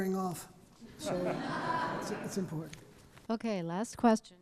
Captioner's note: audience laughing